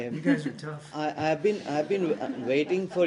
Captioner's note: laughter